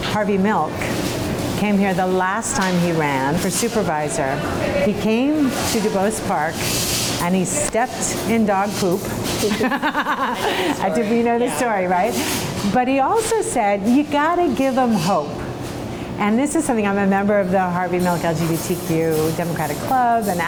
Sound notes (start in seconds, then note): 9.4 laughs